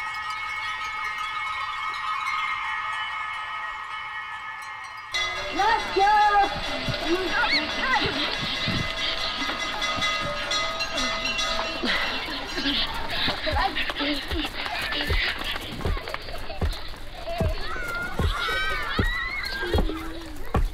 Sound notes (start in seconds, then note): 10.1 children panting; 17.3 shrieks and laughter